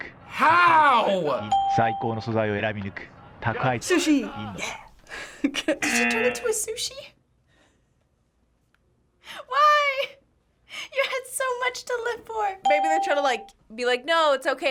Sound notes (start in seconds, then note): 1.5 ding; 5.2 chuckles